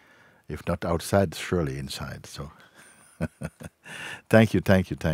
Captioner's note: laughs